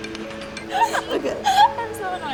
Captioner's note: laughing